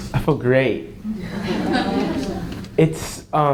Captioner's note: audience chuckles